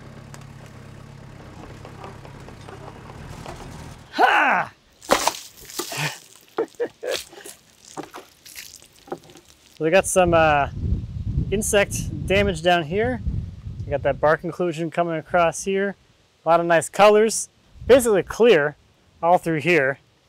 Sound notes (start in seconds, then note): 0.0 engine runs; 4.1 grunts; 4.9 water splashes; 8.1 laughs; 8.1 water splashes